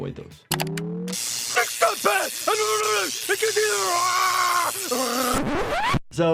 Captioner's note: electricity zapping; Homer screaming